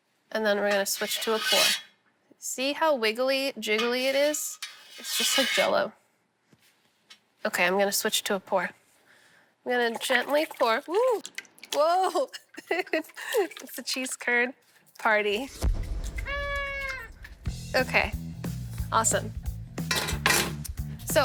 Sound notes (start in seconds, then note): 11.8 laughs; 15.2 blasting; 15.9 party horn blows